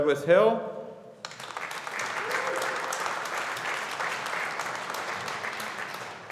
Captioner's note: audience applauding